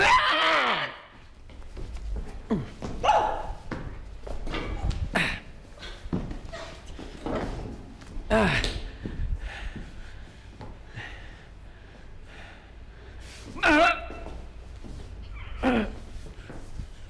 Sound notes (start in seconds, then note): 0.0 Jill screams; 0.0 groans; 13.6 groans